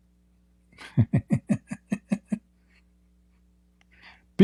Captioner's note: Ketawa